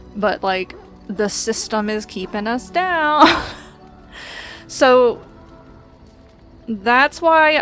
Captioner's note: laughs